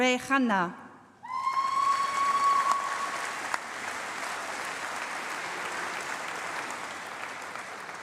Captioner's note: applause